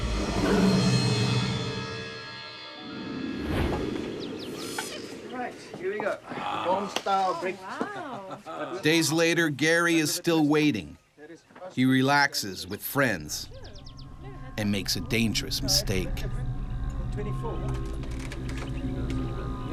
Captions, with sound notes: - Alright here we go, home-style breakfast. - Oh wow. - [Voiceover] Days later Gerrie is still waiting. He relaxes with friends. And makes a dangerous mistake.